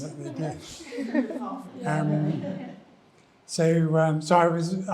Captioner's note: attendees laughing